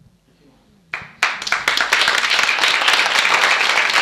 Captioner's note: applauding